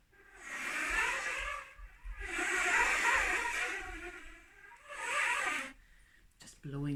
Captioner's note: wind noises